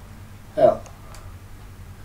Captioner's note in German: Aus dem Off